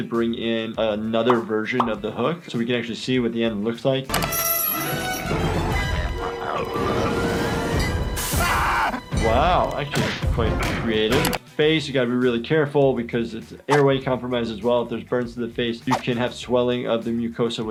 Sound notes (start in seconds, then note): 5.0 chicken groaning; 8.3 Peter screaming